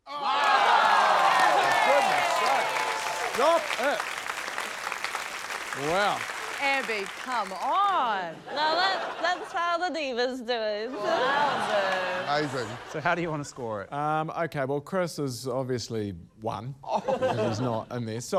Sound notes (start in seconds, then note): 0.0 cheering, applause; 10.9 laughter